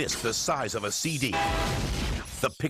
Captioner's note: horn blares